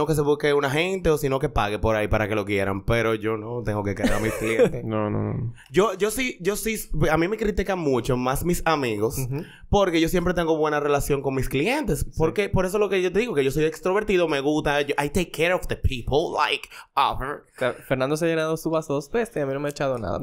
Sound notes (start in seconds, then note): 4.0 laughs